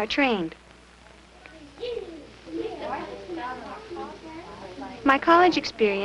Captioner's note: children chattering